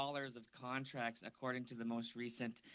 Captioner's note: speaking French